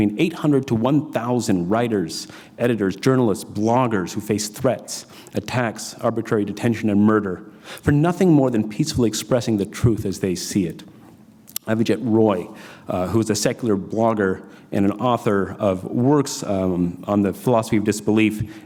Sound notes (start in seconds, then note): none